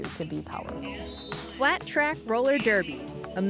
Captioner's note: whistle blows